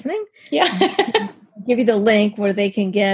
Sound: laughs

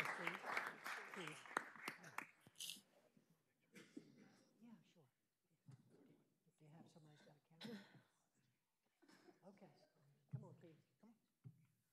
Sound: applause

